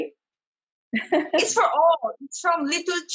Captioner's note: laughs